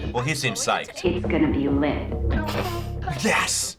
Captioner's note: snorting